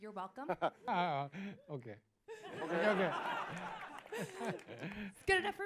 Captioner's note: laughs